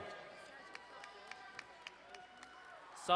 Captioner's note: crowd cheering and applauding